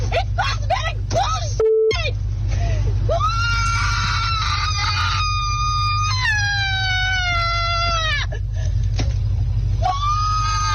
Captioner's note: screaming; beep